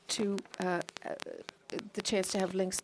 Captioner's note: speaking French